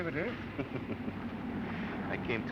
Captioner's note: chuckles